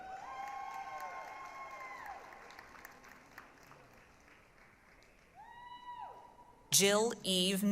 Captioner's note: applause, cheering